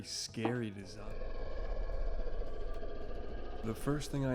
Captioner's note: scary growling noises from the spirit of Faker